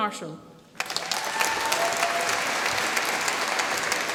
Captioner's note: applause